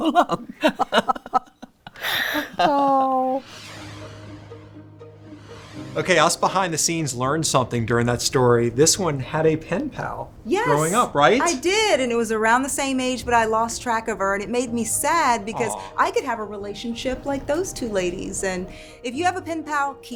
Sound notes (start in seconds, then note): 0.0 laughs; 2.4 soft music; 3.4 graphics whoosh